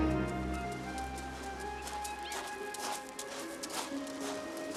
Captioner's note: kerikil berderak